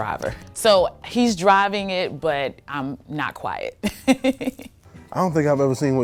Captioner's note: laughs